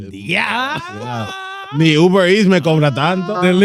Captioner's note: speaking In Foreign Language